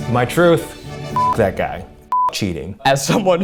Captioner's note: beep